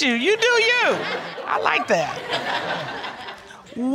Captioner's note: audience laughing